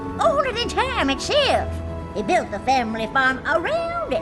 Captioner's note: none